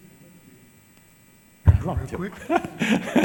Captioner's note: laughs